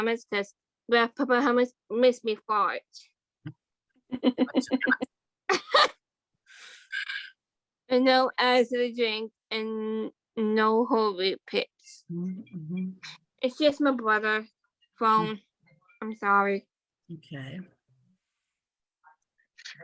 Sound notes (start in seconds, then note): 5.4 laughter